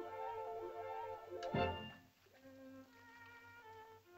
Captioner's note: soft uplifting music; piercing sound